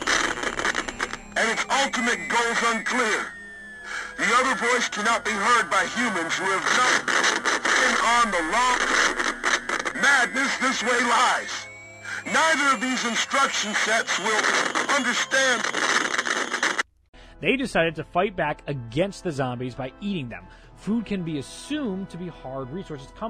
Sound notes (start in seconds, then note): 0.0 Static; 6.3 Static